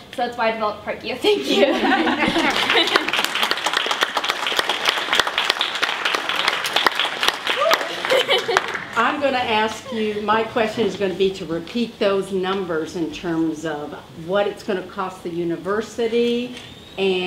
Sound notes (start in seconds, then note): 1.4 crowd laughs and claps